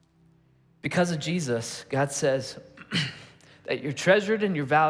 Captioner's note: clearing throat